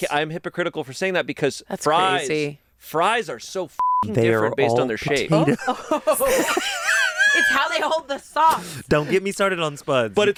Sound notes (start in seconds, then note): 3.8 beep; 5.4 everyone laughs